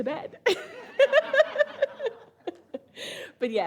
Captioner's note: all laugh